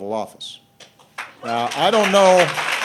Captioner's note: applause